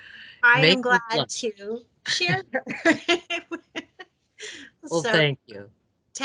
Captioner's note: laughs